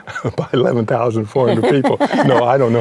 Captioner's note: laughs